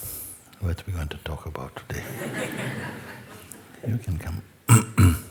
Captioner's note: laughter